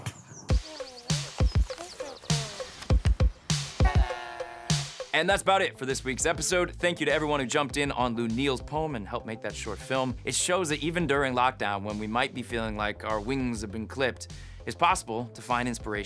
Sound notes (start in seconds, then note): 0.0 animals murmuring; 0.2 theme music playing